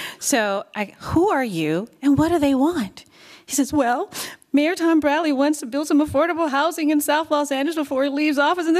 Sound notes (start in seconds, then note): 3.5 sniffling voice